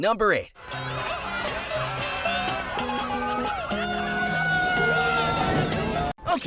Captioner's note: screaming